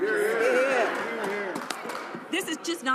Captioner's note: some Applause